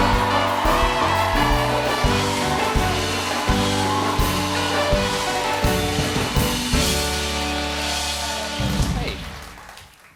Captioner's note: applause